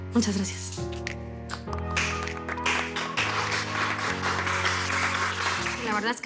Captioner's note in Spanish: Aplausos